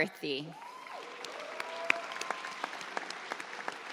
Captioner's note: audience cheers